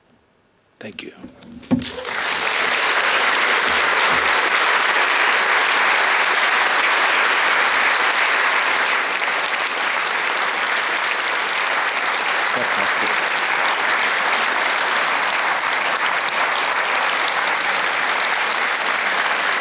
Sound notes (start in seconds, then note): 3.7 applause